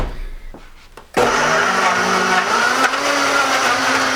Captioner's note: whirring